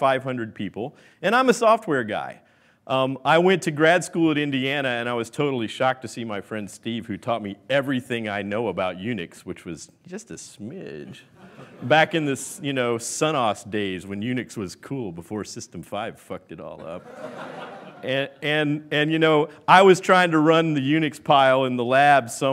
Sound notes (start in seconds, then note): 18.8 laughing